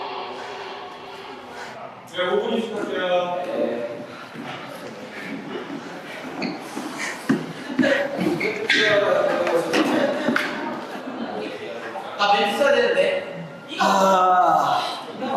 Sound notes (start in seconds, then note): 3.9 breathing heavy; 13.7 exasperated sigh